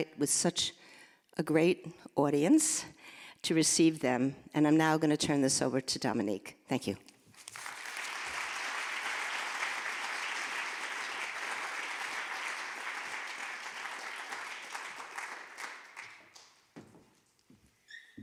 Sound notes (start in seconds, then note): 8.5 audience applauding